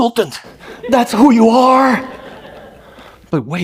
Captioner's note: laughter